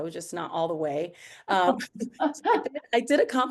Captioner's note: chuckles